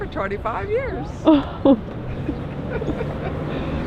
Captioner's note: laughing